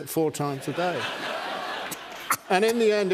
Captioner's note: laughter